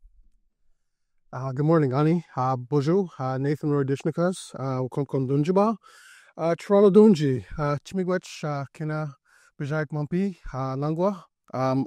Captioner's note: speaking Indigenous language